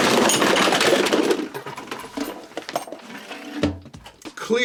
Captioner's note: crashing; thud